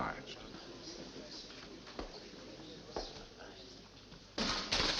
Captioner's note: people chattering